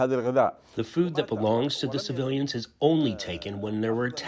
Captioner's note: through translator